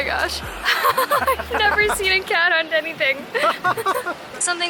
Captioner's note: giggles; giggles